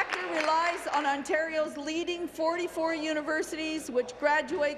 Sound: applause

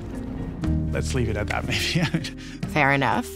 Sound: laughs

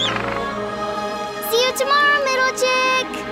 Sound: seal barking

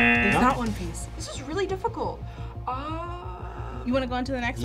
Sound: buzzer; gasps

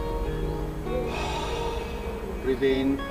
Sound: exhales

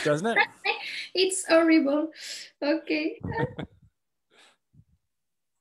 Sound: chuckles

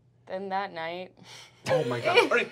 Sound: laughter

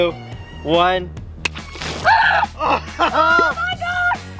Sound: water splashes

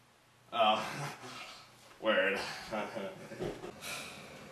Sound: sigh

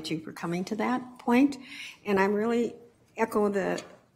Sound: none

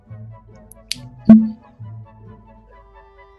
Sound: pop

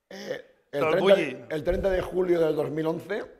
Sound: speaking spanish; speaking spanish

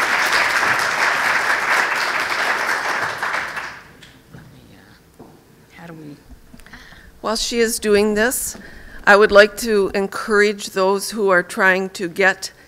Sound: applause

